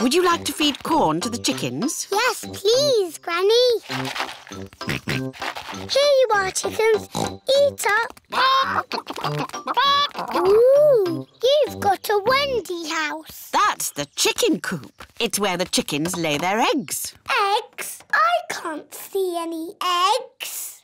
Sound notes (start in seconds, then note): 7.4 oinks